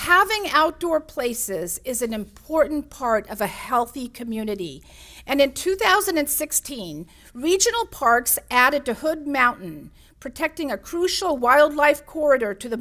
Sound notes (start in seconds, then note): none